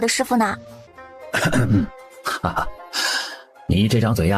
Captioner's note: coughs